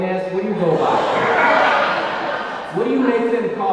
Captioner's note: audience laughing